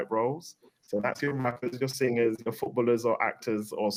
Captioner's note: audio distorts